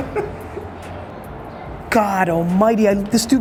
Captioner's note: laughing